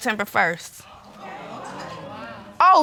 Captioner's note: audience exclaiming